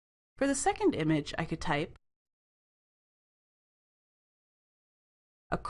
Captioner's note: brief silence